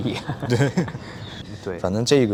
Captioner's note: both laughs